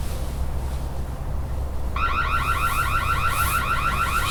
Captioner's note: radio alarm going off